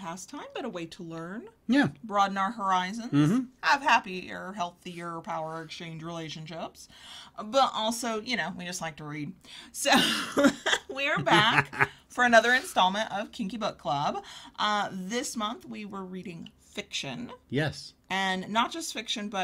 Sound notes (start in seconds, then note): 9.9 laughs